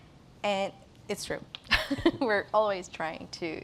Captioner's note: rires